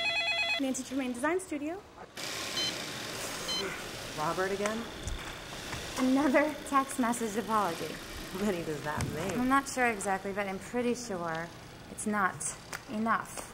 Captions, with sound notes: Nancy Tremaine design studio. - [phone beeping] - Robert again? - Another text message apology. - How many does that make? I'm not sure exactly, but I'm pretty sure it's not enough.